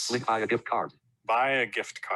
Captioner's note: automated Voice